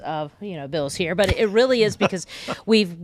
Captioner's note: laughing